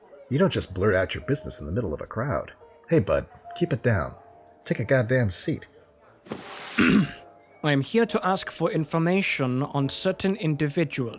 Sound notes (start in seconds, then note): 6.6 clears throat